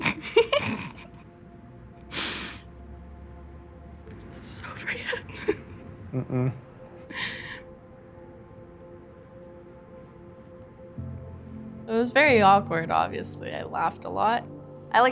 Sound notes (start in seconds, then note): 6.1 hums no; 11.2 piano music plays